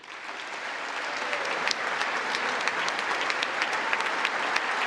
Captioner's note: congress applauding